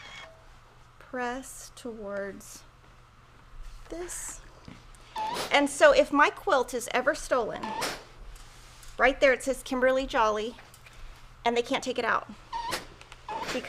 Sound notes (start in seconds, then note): 5.1 iron squeaks; 12.5 iron squeaks and clangs